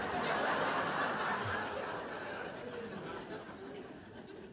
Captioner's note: much laughter